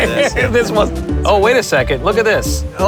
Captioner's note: laughing